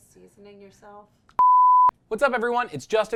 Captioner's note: beep